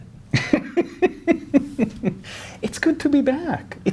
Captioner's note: guy laughing